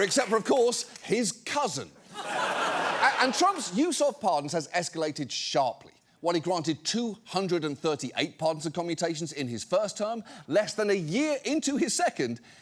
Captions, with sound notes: except for, of course, his cousin. (STUDIO AUDIENCE LAUGHS) And Trump's use of pardons has escalated sharply. While he granted 238 pardons and commutations in his first term, less than a year into his second,